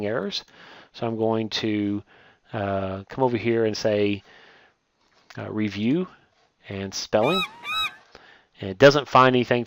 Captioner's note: birds squawking